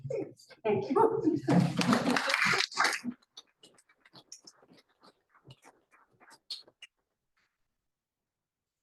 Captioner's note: appluse